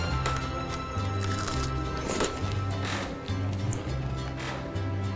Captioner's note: taco crunching